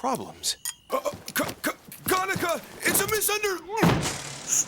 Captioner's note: grunts